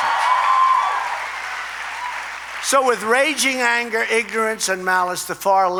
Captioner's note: applause